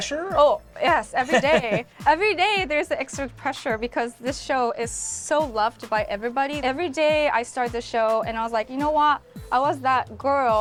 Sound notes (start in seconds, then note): 1.1 laughs